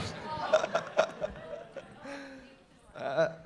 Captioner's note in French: rires